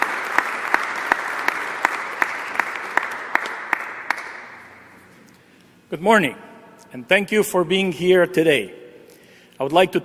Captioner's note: applause